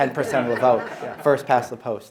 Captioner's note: audience laughing